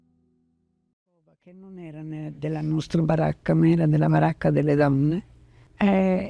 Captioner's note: speaking in foreign language